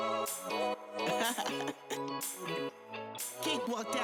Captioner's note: singer laughs